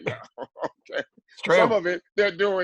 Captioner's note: laugh